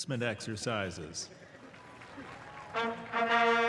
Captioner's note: applause